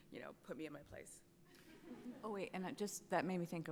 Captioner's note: attendees laughs